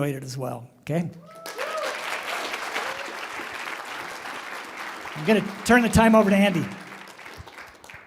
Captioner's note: applause